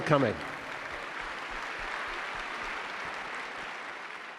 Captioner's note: audience claps